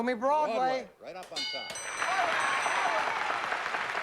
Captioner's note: cheering and applause